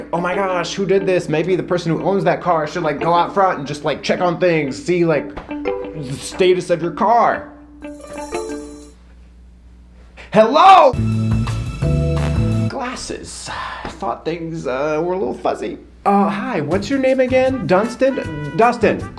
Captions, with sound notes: "Oh, my gosh, who did this?" Maybe the person who owns that car should, like, go out front and just, like, check on things, see, like, the status of your car. Hello? (surreptitious music) - Glasses. (sighs) I thought things were a little fuzzy. - Uh, hi. What's your name again? Dunsted? Dustin.